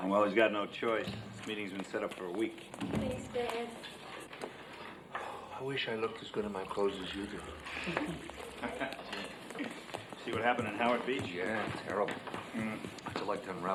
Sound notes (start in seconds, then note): 7.4 group chuckles